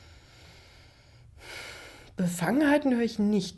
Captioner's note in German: seufzt